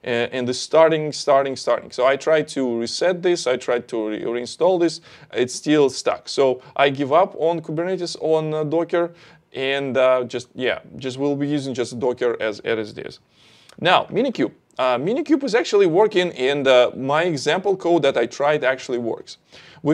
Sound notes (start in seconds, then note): none